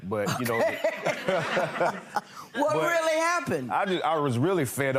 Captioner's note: laughing